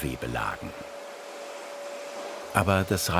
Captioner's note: high-pitched whirring